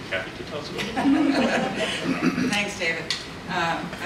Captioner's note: panelists laugh